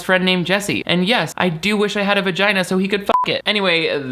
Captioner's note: beep